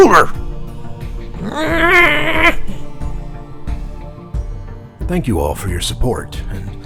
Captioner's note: angry artist noises